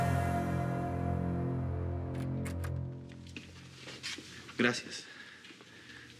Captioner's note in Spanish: sonido al abrir la puerta